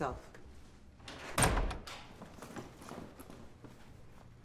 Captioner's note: door opening